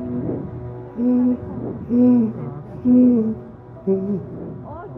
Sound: female humming

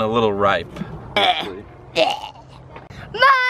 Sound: coughing

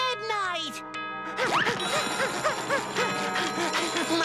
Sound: panting

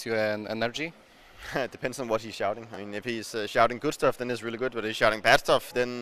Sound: chuckle

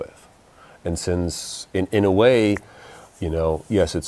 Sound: snaps fingers

